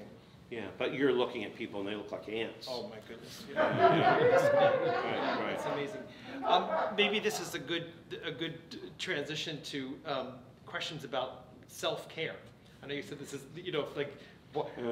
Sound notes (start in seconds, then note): 3.5 audience laughs